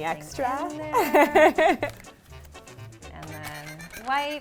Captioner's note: laughs loudly